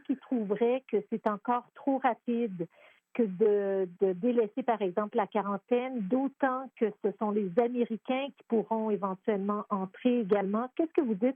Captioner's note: speaking French